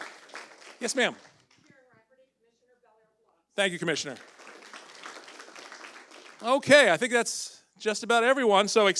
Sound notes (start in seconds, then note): 3.8 audience applauds